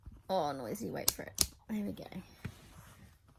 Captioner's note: tripod clicks loudly